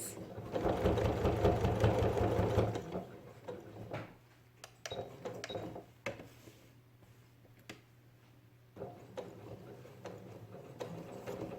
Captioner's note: sound of sewing machine